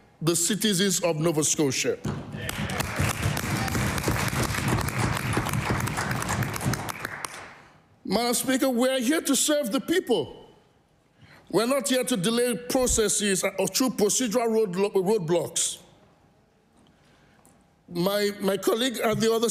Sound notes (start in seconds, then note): 5.5 applause